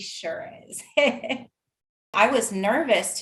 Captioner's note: laughing